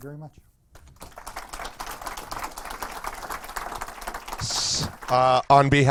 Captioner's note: audience applause